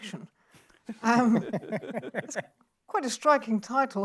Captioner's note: laughs